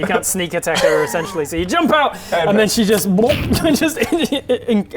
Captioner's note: blub